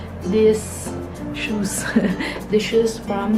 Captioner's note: laughs